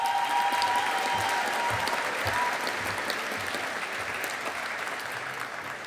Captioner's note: audience applauding